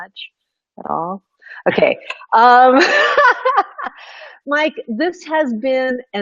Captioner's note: laughing